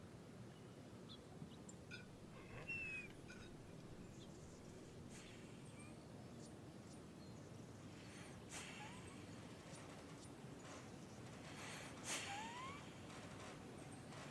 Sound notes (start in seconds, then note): 2.3 dog yawning; 6.1 heavy breathing